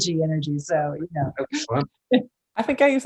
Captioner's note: Michelle laughs